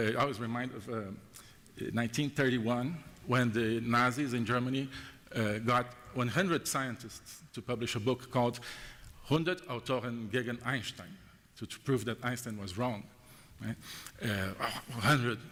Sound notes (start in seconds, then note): 10.3 german